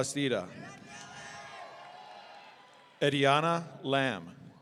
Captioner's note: audience cheering